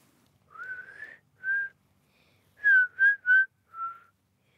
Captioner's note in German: pfeift leise